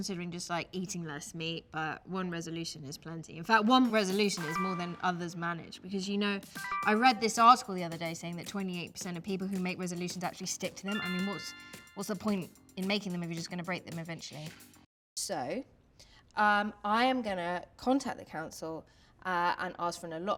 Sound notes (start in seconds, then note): 6.4 notification sound; 10.8 notification sound